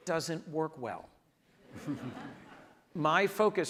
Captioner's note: audience laughs